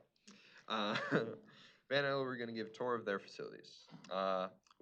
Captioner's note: laughs